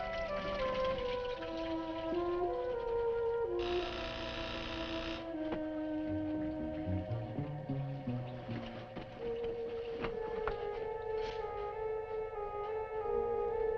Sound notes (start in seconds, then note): 3.6 door buzzing